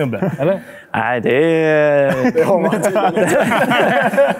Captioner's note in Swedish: skratt